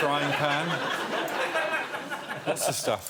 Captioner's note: laughter